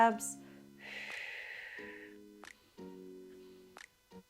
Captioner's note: exhales